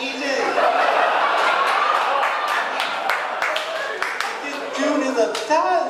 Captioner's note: audience laughing and clapping